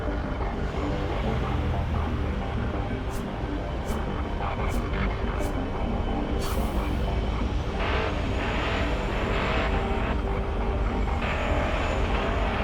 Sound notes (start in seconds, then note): 3.8 intense music continues; 3.8 virtual cars revving